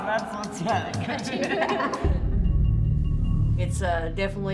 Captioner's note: both laughing